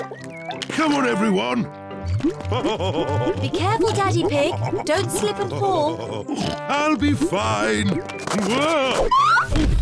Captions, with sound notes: Come on, everyone! (LAUGHS) Be careful, Daddy Pig! Don't slip and fall! I'll be fine! Whoa! Oof!